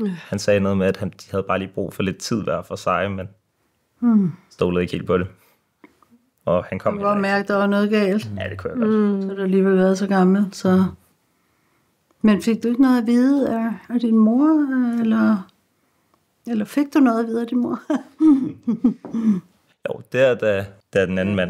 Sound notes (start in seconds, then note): 17.8 chuckles